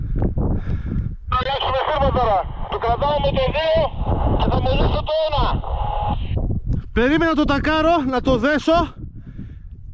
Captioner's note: radio talk